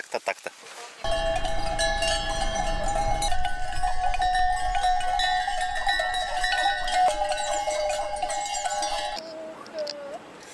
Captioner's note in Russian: звук колокольчиков на коровках